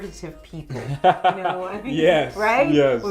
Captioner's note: laughs